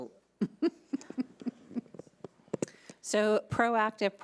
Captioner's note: laughing